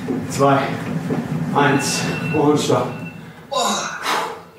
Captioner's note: cell phone alarm